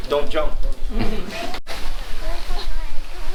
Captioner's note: laughs